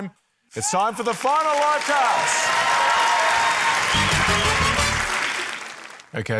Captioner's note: cheering, applause